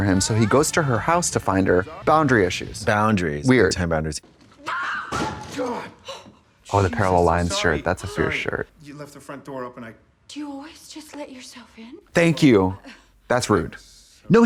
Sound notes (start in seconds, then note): 4.6 Brooke shrieks; 4.8 Chris gasps; 6.0 Brooke gasps